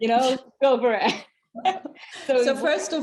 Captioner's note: laughing